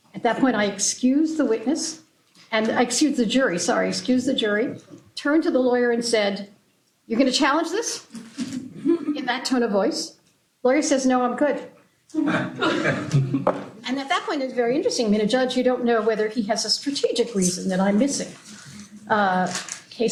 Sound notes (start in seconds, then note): 12.2 laughter